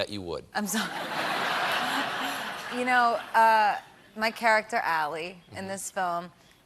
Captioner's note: laughter